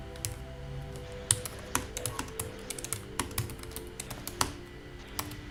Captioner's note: presenter typing